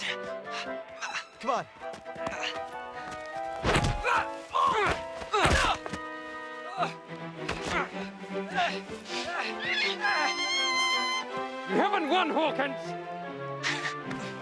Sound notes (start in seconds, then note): 3.8 Savage yelling; 4.7 thudding; 5.3 Savage yelping; 9.8 Captain Flint squawking